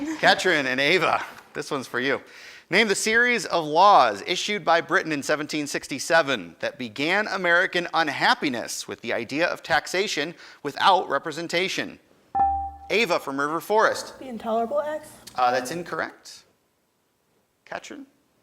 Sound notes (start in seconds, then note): 14.0 buzzer dings